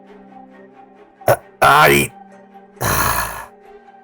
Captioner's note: sighs